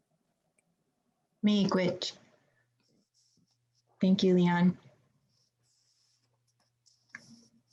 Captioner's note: speaking in foreign language